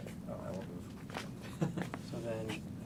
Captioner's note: laughing